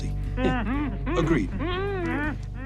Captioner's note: hostages moan